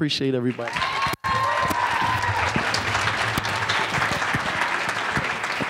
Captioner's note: audience applauds and cheers